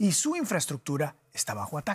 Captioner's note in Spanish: HABLA EN INGLéS